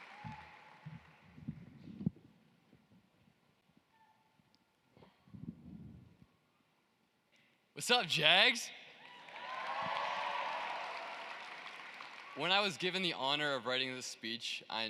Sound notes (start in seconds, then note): 1.1 cheering and applause; 14.6 applause